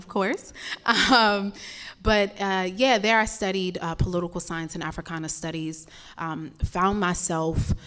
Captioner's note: laugh